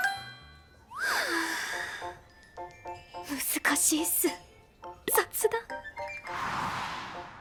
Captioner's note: sigh